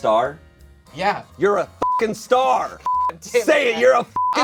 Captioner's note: beep